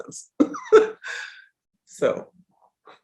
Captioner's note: chuckles